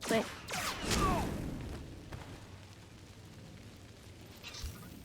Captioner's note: thunder